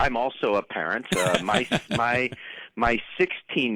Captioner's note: laughs